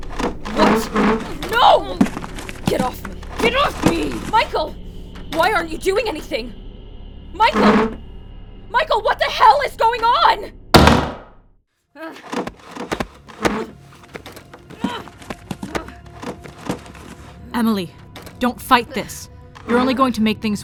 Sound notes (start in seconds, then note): 3.6 Emily grunts and strains; 10.7 doors slam shut